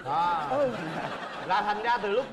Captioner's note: laughing